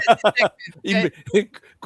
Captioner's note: laughter